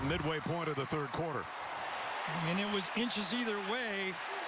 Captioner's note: cheers and applause